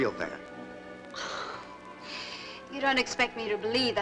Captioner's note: Sybil scoffs